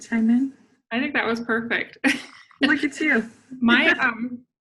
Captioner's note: laughing